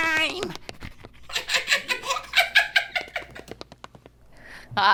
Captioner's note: laughs